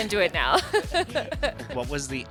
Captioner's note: laughs